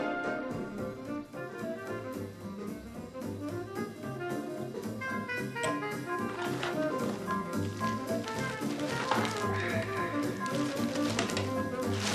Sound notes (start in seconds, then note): 0.1 cheerful music; 8.0 paper shuffling